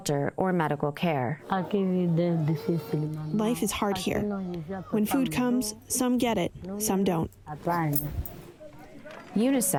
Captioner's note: through translator